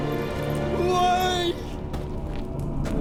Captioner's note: anguished